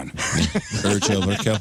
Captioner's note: laughing